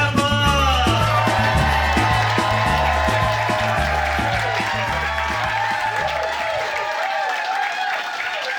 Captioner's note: cheers and applause